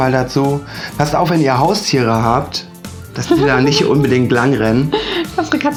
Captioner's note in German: Gelächter